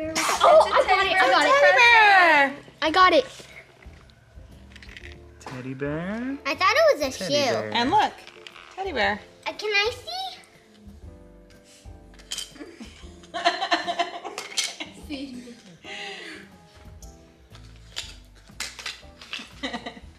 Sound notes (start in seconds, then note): 13.4 laughs